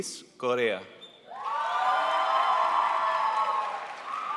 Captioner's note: crowd applauds